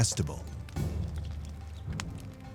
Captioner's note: fire crackling